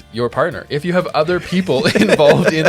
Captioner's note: laughing